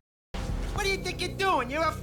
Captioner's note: speaking like a squeaky mob stereotype